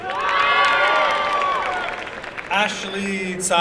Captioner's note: applause and cheering